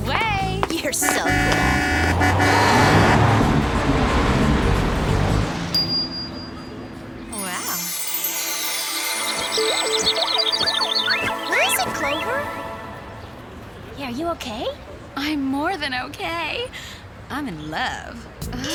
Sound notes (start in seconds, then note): 2.3 car honking; 3.3 gasps; 5.7 ding; 8.6 chimes; 9.2 birds chirping